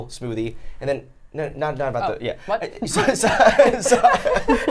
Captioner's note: laughing